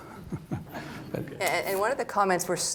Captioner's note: chuckles